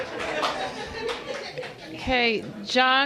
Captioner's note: applause